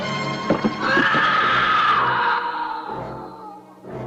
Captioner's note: body thudding; Charlie screaming